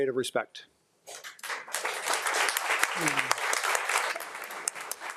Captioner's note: audience applauding